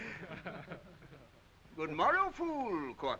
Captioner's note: men chucking